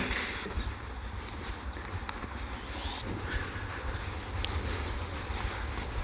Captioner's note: footsteps